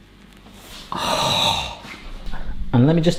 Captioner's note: gasps